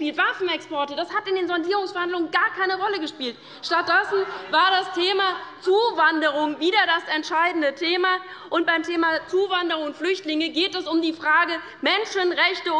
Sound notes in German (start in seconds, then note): 3.3 Unruhe bei dem BÜNDNIS 90/DIE GRÜNEN